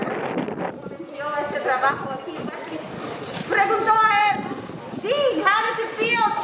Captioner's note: speaking in foreign language